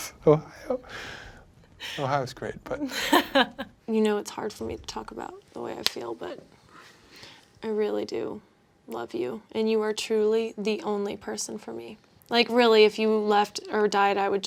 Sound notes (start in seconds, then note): 0.1 both laughing; 2.9 laughing